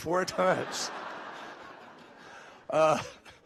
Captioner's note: laughter